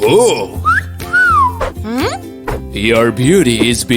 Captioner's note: whistles